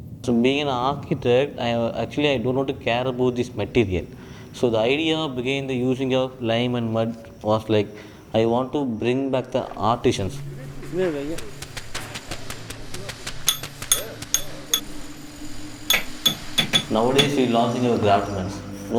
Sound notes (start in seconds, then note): 9.4 damp scraping; 13.8 wood chiseling; 14.9 drilling